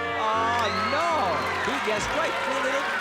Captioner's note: cheers and applause